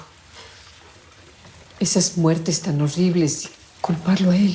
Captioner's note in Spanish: Alerta de texto